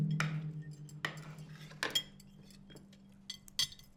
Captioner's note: silverware clanks